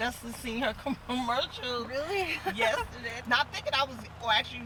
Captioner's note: laughing